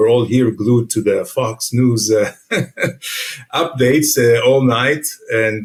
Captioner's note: chuckles